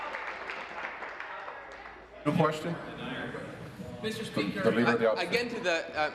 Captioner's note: applause